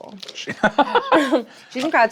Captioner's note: laughs